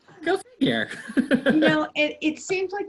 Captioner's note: laughter